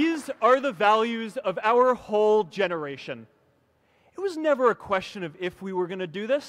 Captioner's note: applause